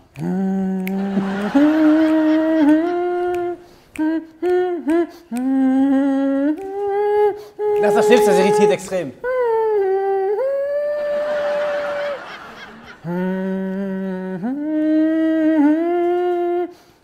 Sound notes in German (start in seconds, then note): 0.2 Melodisches Summen; 10.2 Lachen; 13.0 Tieferes Summen